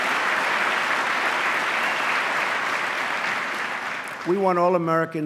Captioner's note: applause